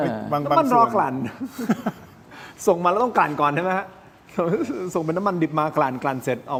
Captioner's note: laughs